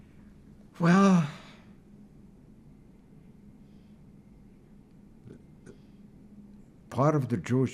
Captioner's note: pauses 6 seconds